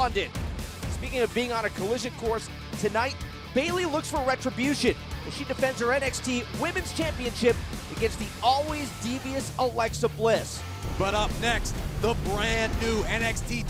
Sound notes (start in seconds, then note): none